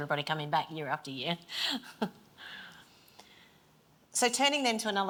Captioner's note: chuckles